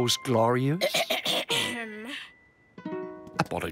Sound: clears throat

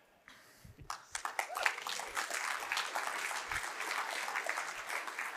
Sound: audience applauding

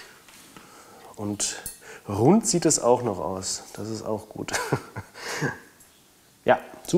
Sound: laughing

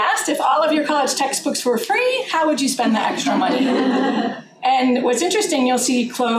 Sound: laughter

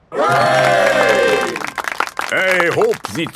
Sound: clapping

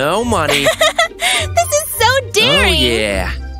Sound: chuckles

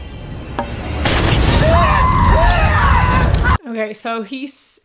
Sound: explosion; screaming

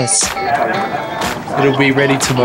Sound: crowd sounds

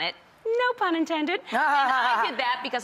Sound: laughing

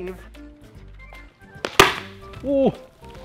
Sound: slam

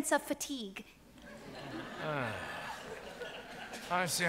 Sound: audience laughs

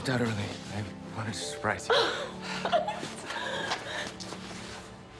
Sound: laughing

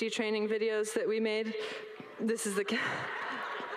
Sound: all laughs

